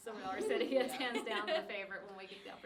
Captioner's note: laughing